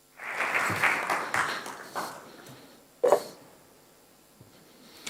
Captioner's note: audience applauding